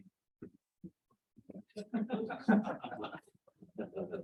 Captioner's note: laughter